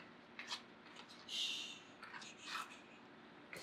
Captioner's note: shushes